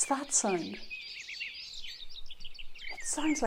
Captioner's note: bird sounds